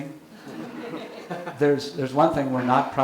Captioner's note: audience laughing